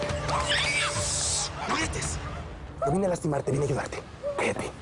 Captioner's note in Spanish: Grito ahogado de ella